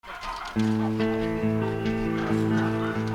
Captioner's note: dogs barking; somber music